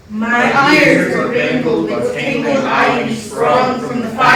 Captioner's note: in Unison